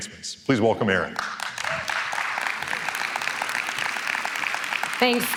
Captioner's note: applause